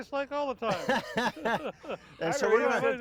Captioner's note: laughing